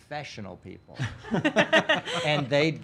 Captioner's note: laughing